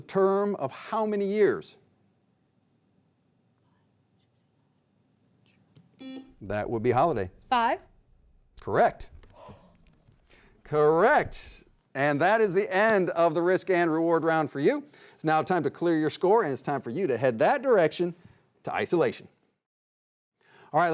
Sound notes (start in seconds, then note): 6.0 beep; 9.3 exhales